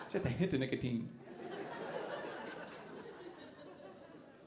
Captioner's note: audience laughing